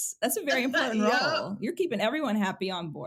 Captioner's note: chuckles